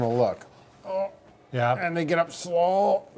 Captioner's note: groaning